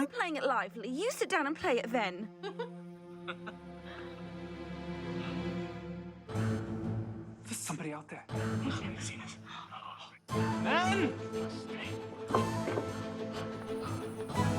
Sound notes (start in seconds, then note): 3.1 both laughing; 10.3 upbeat music